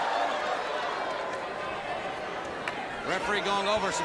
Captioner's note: crowd cheering